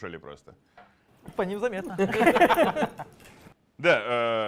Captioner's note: laugh